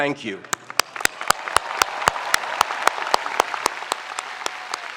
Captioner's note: spectators applauding